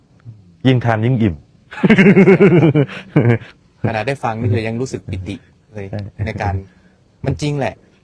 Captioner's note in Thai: เสียงหัวเราะ